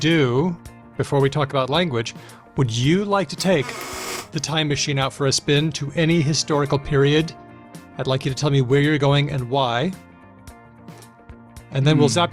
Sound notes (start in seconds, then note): none